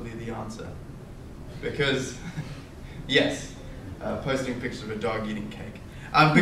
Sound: laughs

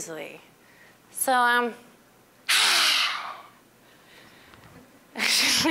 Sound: exhaling loudly

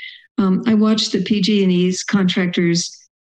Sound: none

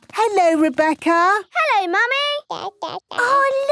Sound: babbling

